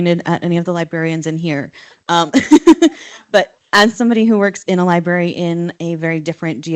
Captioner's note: laughs